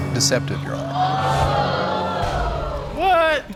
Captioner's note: audience exclaiming